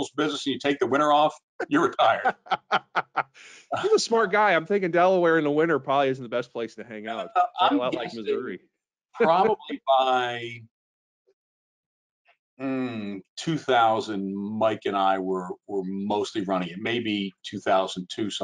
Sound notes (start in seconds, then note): 1.6 laughing